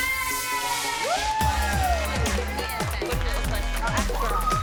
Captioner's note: celebrating